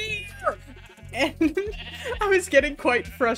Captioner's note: giggles